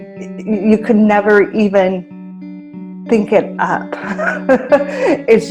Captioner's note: laughs